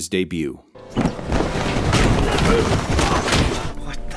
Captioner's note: rustling fabric, several punches, grunts of pain